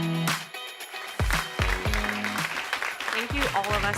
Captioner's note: applause